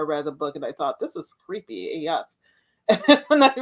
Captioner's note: laughs